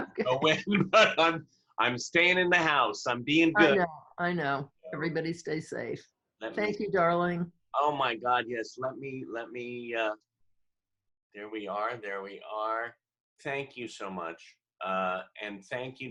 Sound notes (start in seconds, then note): 4.8 laughter